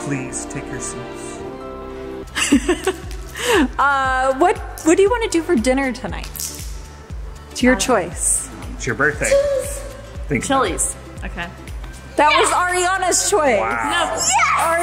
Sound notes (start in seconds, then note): 2.3 laughs